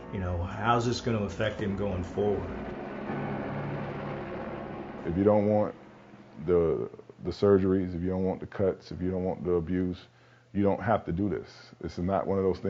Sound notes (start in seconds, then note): 3.0 helicopter rotors whirring